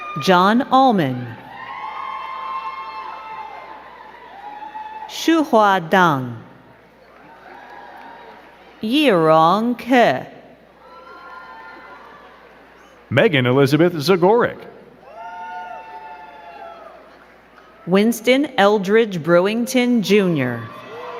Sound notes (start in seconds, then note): 0.0 crowd cheering and clapping; 6.7 crowd cheering and clapping; 10.7 crowd cheering; 14.9 crowd cheering